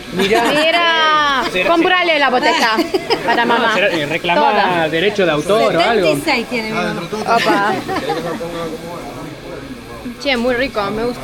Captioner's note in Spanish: risas